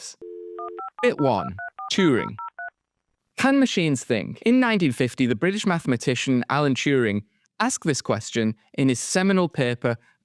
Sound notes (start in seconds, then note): 0.5 voiceover